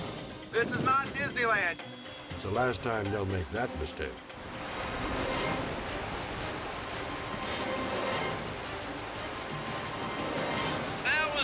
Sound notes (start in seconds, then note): 4.3 water gurgling; 4.5 tense music